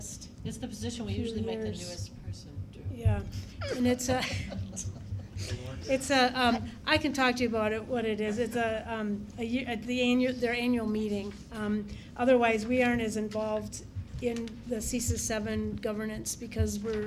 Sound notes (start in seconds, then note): 3.4 laughs